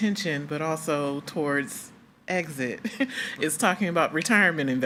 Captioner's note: chuckles